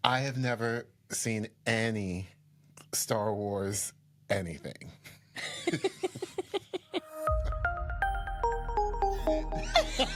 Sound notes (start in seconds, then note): 5.4 both laughing; 7.0 gentle music